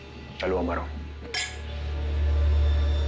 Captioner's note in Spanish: Chocan las copas